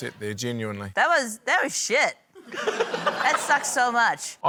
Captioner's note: laughter